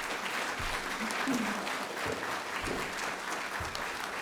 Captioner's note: applause